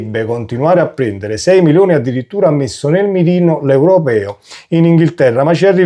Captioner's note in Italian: sbuffare